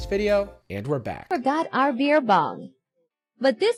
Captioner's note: female AI voice